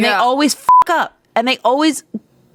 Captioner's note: beep